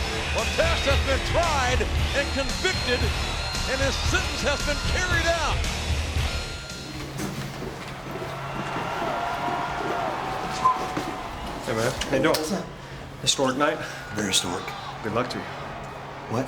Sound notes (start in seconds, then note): 8.6 audience cheering